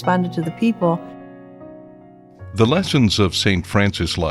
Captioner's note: voiceover